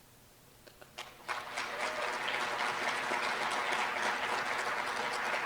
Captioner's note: applause